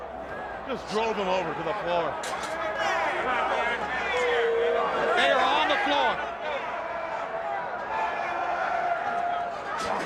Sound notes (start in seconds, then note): 3.6 crowd chattering; 6.9 crowd chattering